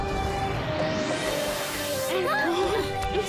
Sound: MB moans

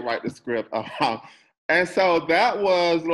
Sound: chuckles

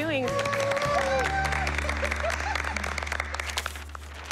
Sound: cheers and applause

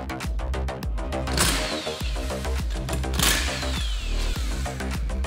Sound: impact whirring

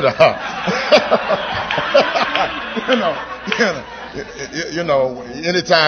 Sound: laughter

